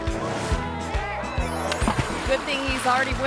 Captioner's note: water splashes